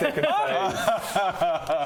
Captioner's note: betrayed laugh